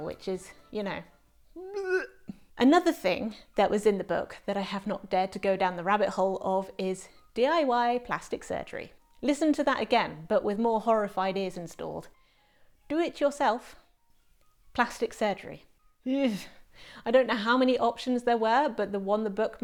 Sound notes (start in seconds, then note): 1.4 retching noise